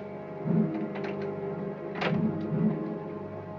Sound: door opens

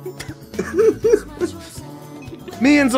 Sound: erarg laughs

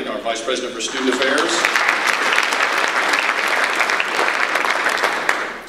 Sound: audience applause

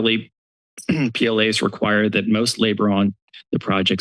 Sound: clears throat

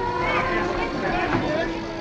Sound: crowd shouting; sirens blaring

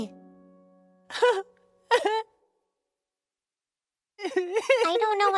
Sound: weeping

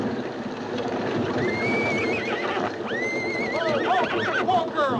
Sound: horse whinnying

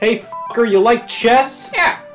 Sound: beep

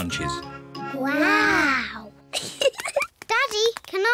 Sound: both giggle

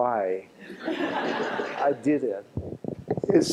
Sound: laughter

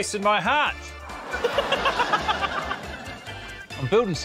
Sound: laughter

